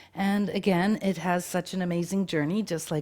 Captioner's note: none